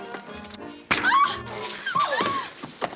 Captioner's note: Catherine yelps